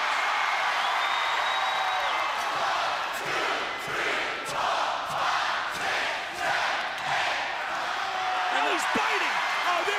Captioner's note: crowd cheering